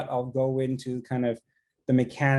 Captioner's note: none